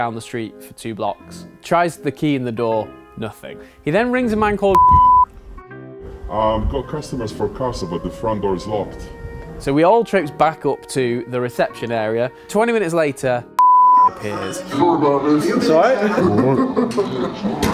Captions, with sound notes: the street for two blocks. Tries the key in the door, nothing. He then rings a man called (beep). So we all trekked back up to the reception area, twenty minutes later (beep) appears.